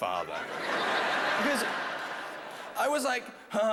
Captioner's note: laughter